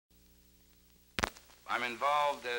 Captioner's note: missing audio